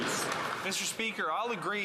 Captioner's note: some Applause